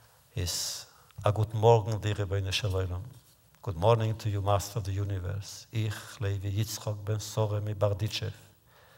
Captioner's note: Yiddish